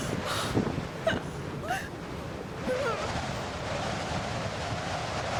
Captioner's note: whimpers softly